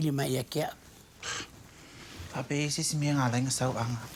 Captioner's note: scoffs